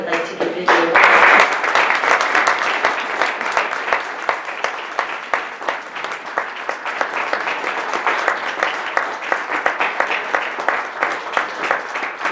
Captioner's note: audience clapping